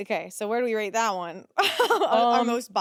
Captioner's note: laughs